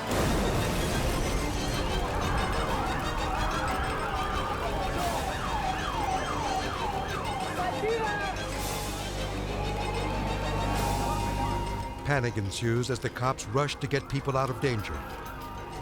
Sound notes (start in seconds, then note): 0.0 bomb explodes; 1.8 dramatic music; 1.8 siren blaring; 6.8 group chattering frantically